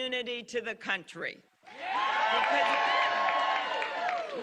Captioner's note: cheers and applause